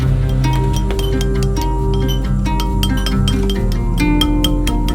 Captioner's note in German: hämmern auf Metall